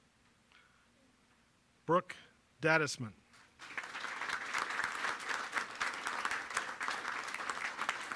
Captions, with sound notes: Brooke Dadisman. (applause)